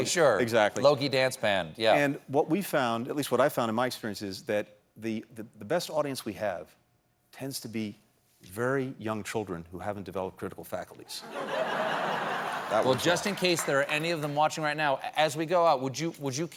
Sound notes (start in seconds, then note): 11.2 laughter